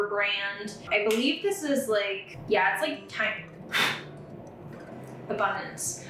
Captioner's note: blows